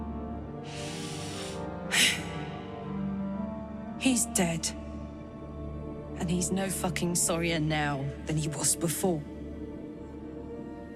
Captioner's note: sighs